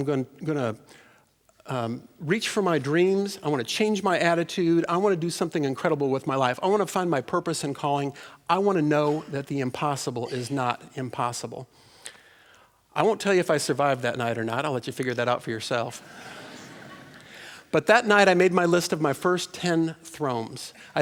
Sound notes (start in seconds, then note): 16.0 laughter